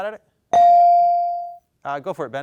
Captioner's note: bell dings